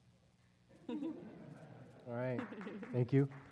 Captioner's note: laugh